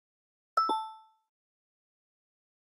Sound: ding-dong

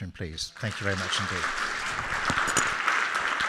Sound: audience applauds

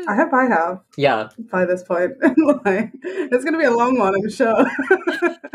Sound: laughs

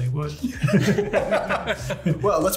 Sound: all laughing

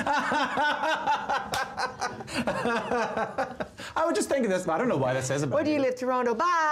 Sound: laughter

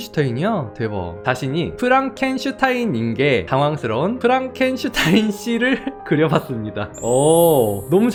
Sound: voiceover

